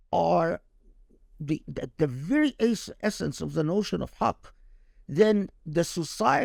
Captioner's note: speaking Arabic